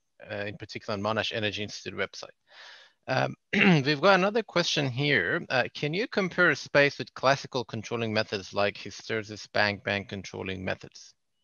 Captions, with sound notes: Particular on Monash Energy Institute website. (clears throat) We've got another question here. Can you compare SPAACE with classical controlling methods like hysteresis bank and bank controlling methods?